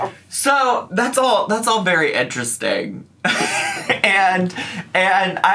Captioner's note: laughs